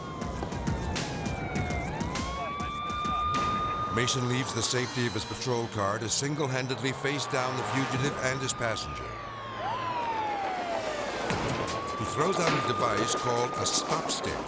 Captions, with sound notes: (sirens wailing) Mason leaves the safety of his patrol car to single-handedly face down the fugitive and his passenger. (sirens wailing) He throws out a device (tire pops) called a Stop Stick,